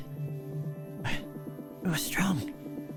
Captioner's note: breath in